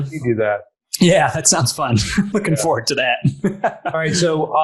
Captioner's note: laughs; laughing